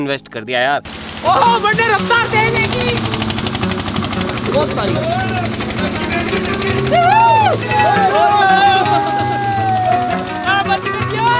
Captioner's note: screaming